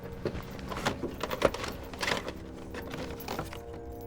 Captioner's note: tapes rattle